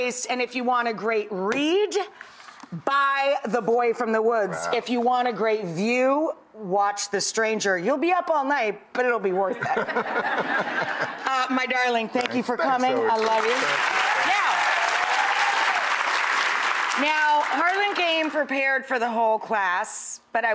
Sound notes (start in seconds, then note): 9.5 laughter; 16.0 applause